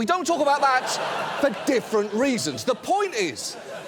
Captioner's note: studio audience laughs